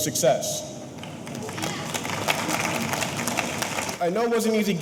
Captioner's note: audience applauding; audience cheering